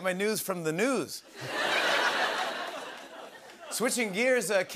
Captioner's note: laughter